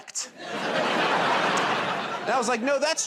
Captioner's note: laughter